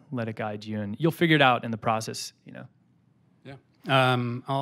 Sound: none

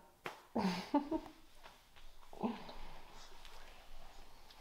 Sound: videographer laughs

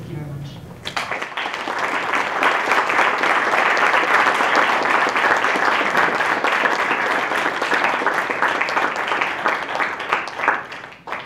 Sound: applause

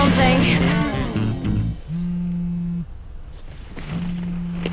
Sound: phone vibrates, music skids to a halt

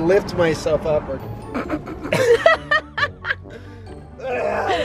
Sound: both laugh

